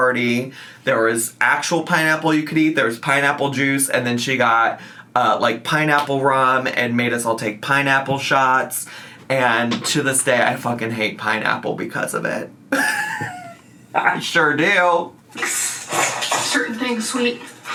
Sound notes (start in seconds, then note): 12.7 laughs